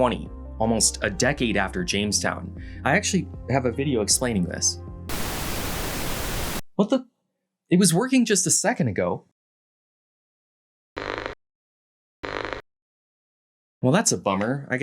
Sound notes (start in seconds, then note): 5.1 TV Static; 11.2 Static